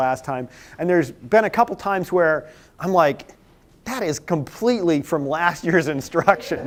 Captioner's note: laughter